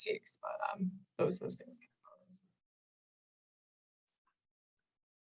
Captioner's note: speaks softly